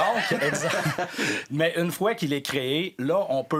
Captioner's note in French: rires